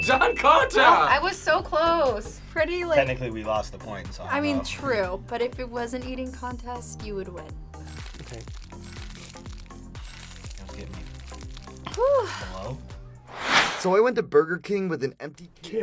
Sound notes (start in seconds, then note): 4.0 speaks faintly; 8.0 screen crackling